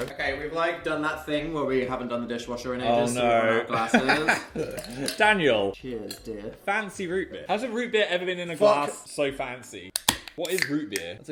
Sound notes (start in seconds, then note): 3.7 laughs; 5.0 ice rattling; 9.9 can popping